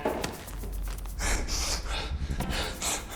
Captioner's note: panting